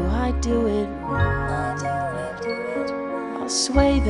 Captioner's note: Pebbles echo last words